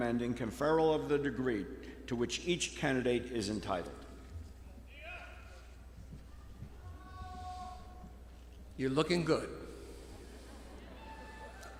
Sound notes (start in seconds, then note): 5.2 audience shouting